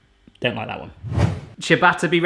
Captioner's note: whooshing